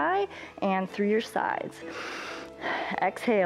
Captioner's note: inhales and exhales